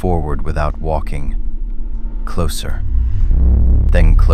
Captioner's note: SFX: high pulse energy